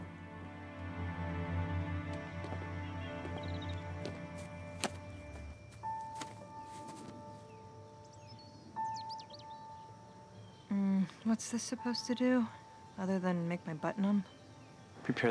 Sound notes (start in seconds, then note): 3.6 birds singing; 6.4 pensive piano music